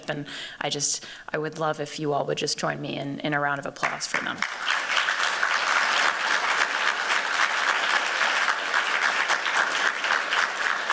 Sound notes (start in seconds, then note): 3.8 applause